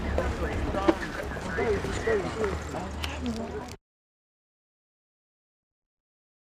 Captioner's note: traffic rumbling; radio buzzing